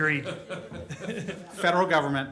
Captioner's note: laughter